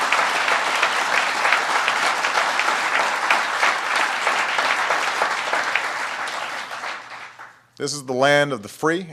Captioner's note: applause